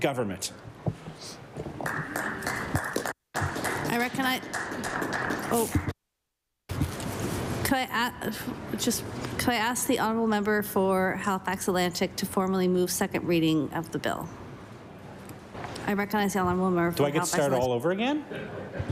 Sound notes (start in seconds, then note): 3.3 some Applause